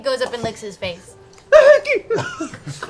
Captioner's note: yelps